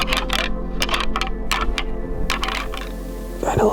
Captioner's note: antlers rattling